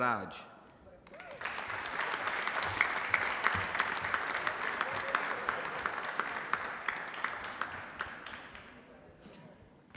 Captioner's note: applause